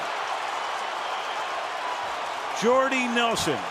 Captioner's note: cheering